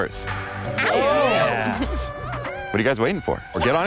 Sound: contestants cheering

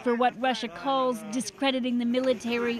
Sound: speaking Foreign Language

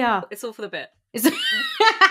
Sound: laughs

